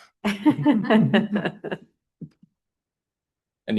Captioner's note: chuckling